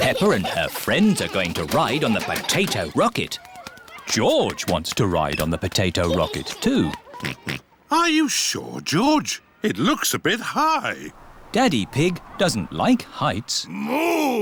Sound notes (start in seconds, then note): 7.6 oinks